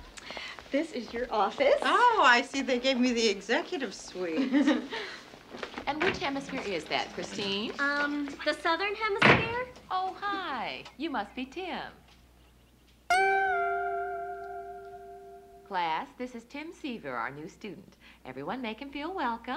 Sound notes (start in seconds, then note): 4.3 Sheila laughing; 13.2 chiming music